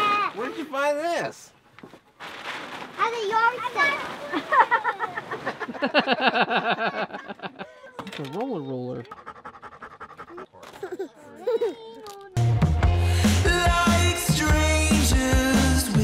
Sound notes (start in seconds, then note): 4.3 laughter; 9.0 dog panting; 10.6 laughing